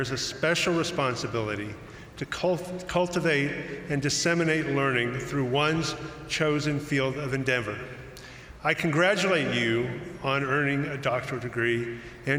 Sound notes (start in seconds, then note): none